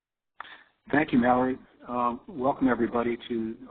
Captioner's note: voiceover